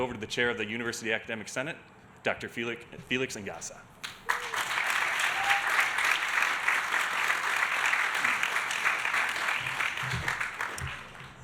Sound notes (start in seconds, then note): 4.0 audience applauding